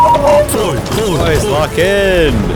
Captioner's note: chanting